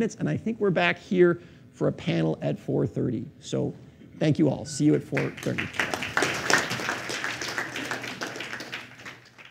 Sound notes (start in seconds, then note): 5.1 applause